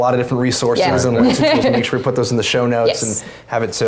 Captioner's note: laugh